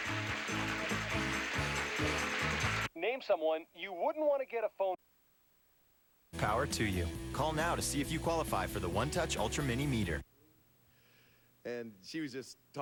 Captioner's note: audience applauding